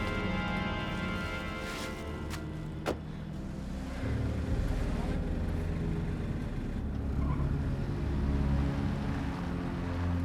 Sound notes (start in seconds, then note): 2.9 door shuts; 7.5 tires screech